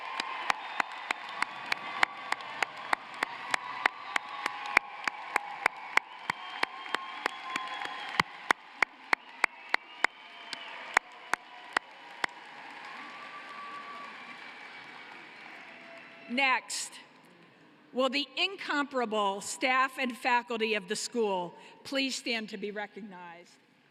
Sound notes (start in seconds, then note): 6.9 cheering and applause